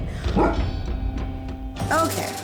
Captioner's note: dog barks